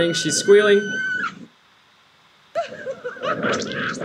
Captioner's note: girl squealing; chattering